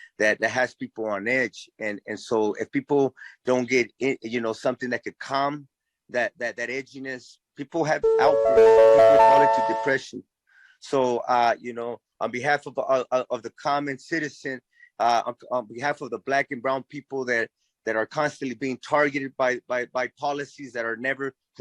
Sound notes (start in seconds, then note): 7.9 audio tone